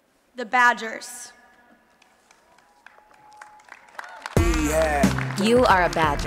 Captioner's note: applause and Cheering